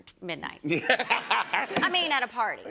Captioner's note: laughter